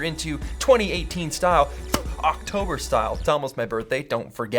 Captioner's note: punching sound